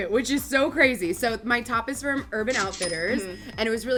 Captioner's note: cash register rings